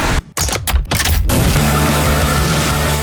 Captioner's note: lots of mechanical noises signifying the vehicles are about to do racey stuff